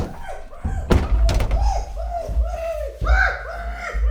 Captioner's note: muffled screams of festive joy